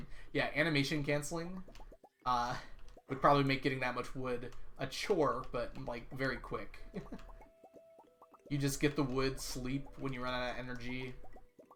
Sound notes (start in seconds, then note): 6.8 chuckles